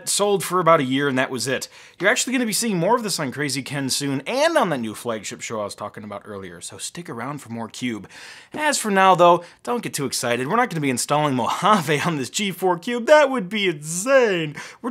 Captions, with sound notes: sold for about a year and that was it. You're actually going to be seeing more of this on Krazy Ken soon and on the new flagship show I was talking about earlier, so stick around for more cube. As for now, though, don't get too excited. We're not gonna be installing Mojave (laughing) on this G4 Cube, that would be insane.